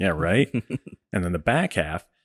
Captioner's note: laughing